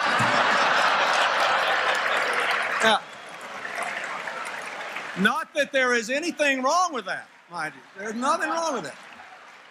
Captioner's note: applause, Laughter